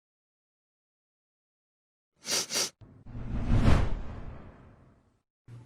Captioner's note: sniffs